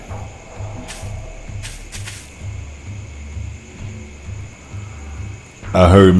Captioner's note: dramatic music continues; crickets chirp